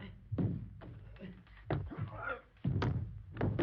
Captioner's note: grunting